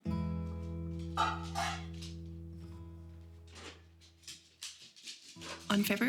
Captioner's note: gentle music; bowls clatter